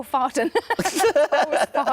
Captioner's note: laughs; Tom laughs